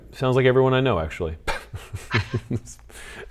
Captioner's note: laughing